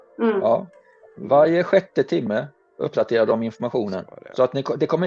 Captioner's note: mumbling